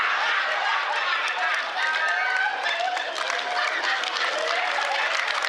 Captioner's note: laughter